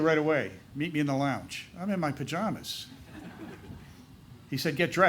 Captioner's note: laughter